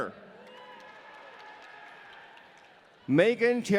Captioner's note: audience cheering